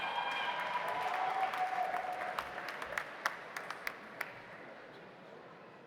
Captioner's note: audience cheering; audience applauding